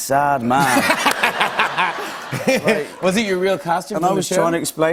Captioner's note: laughs